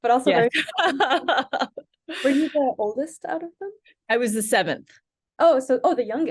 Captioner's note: laughs